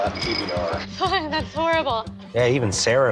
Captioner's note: giggling